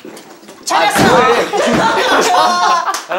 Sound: crash

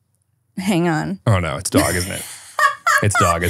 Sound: laughing

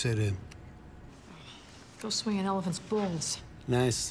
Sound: normal accent

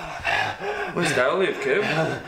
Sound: Kevin gasping

